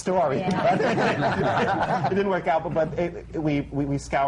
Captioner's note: laughter